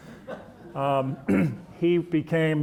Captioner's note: audience chuckling